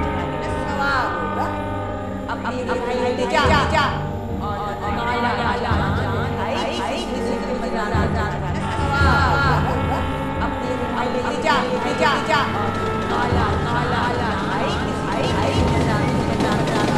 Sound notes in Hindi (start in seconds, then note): 8.5 ट्रेन की सीटी